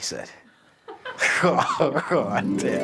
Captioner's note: producer laughs; laughs